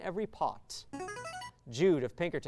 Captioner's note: signaling device tone